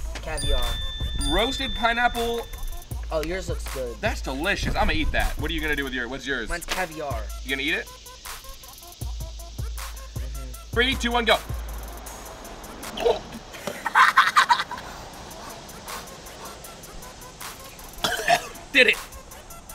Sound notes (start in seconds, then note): 12.8 laughing; 12.9 gagging